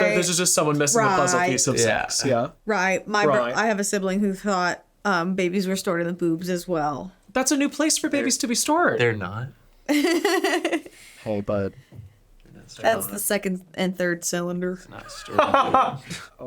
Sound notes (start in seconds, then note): 9.9 laughs